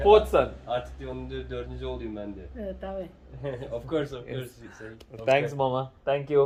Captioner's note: speaking in foreign language